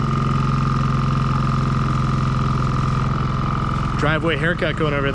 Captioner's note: engine revving